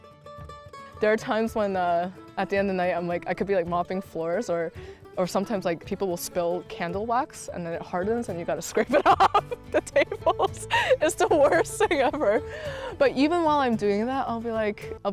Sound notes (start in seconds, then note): 8.8 laughs